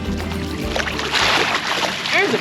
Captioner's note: reel cranking; fish splashing